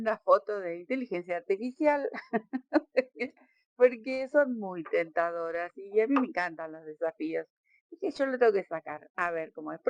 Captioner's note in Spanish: risas